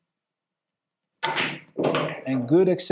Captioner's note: balls clacking